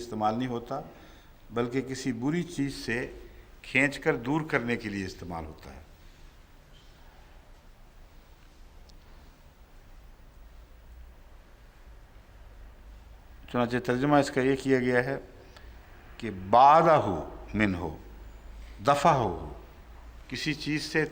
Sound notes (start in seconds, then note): 19.3 Arabic